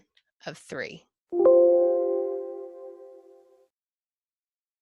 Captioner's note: computer tone